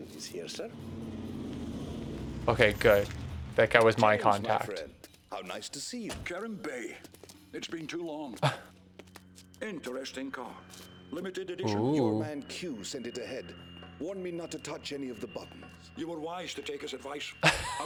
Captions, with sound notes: Okay, good. That guy was my contact. It's been too long. (chuckles) Limited edition.